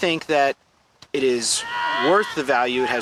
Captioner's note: people screaming